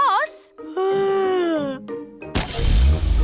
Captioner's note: yawns